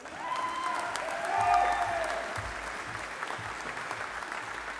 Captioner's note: audience applauding